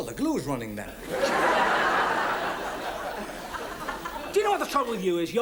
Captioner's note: audience laughs